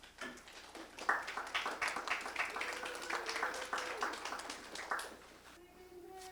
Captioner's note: audience applauding and cheering